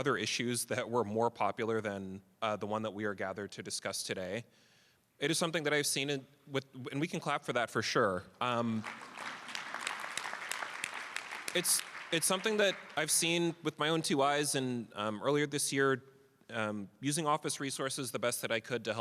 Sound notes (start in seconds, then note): 8.6 applause